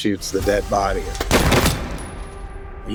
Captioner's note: gunshot